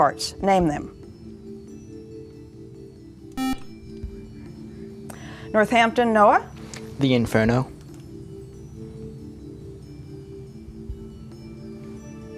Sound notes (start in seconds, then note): 3.4 beeping; 7.7 ambient music